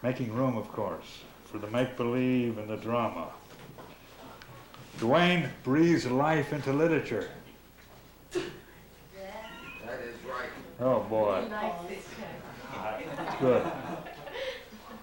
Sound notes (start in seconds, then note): 12.6 laughter